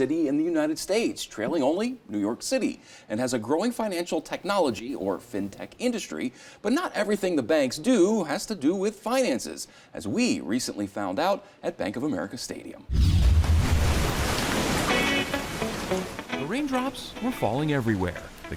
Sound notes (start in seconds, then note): 13.2 rain splattering; 13.4 upbeat music